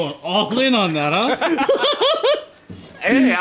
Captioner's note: laughing